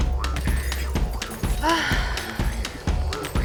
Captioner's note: gentle upbeat music; Megan sighing; gentle upbeat music